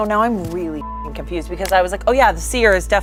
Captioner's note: beep